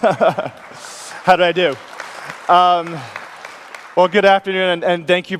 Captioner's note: laughs; audience claps